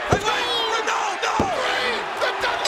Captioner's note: bell dinging